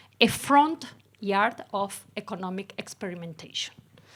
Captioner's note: none